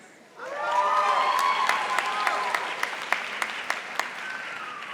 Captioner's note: audience applauding